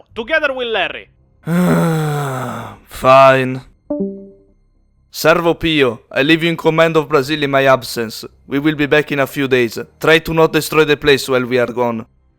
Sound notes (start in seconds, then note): 1.4 sigh